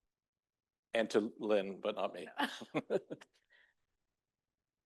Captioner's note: laughs